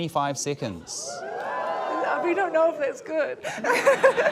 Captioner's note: audience members whoop; laughter